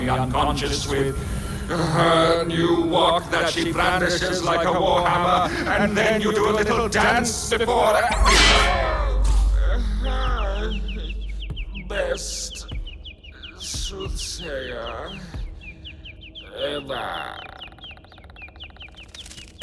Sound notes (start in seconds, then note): 8.1 clang!